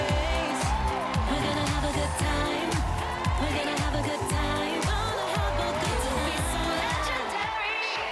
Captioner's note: cheering and applause